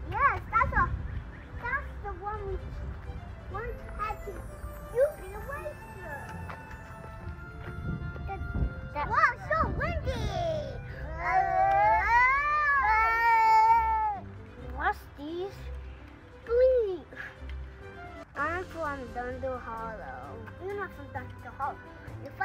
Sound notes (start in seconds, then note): 6.8 wind blows; 12.2 kids shouting